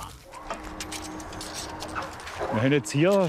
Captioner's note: slight lifting noise